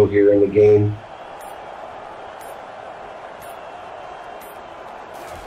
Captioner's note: crowd cheering